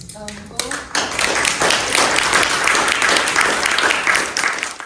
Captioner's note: applause